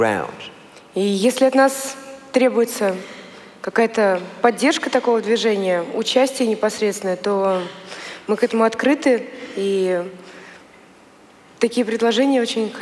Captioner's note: foreign Language